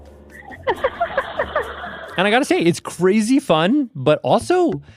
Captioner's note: laughs